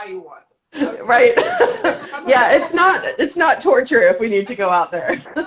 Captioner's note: laughs